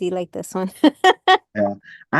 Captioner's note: laughs